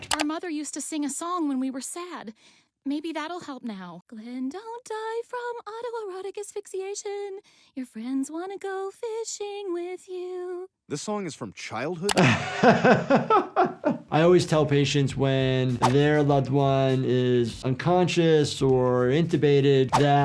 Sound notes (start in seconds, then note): 12.1 Dr. Jordan laughs